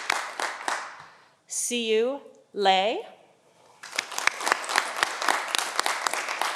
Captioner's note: audience applauding